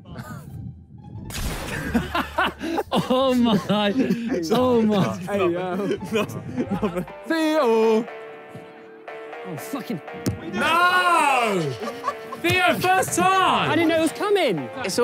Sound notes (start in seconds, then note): 0.1 laughs; 1.3 crash sounds; 1.6 players laugh; 8.9 triumphant instrumental music; 11.3 players laugh